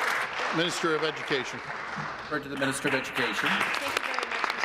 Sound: applause

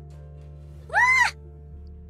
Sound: screams

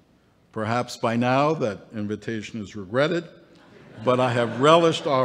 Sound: laughter

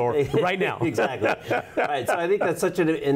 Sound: laughs

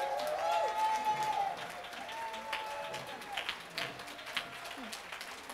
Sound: applause

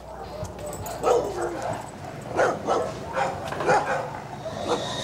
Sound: dogs barking

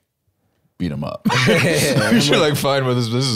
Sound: both laughing

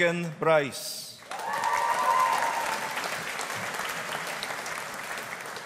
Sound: audience applauding

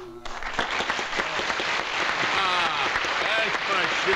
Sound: applause

